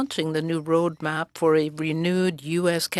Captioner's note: speaking French